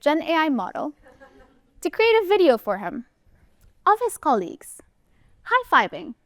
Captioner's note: laughter